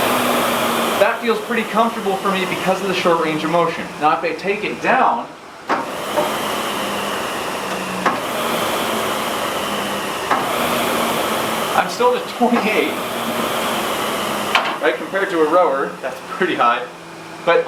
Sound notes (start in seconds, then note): 6.0 SkiErg whirring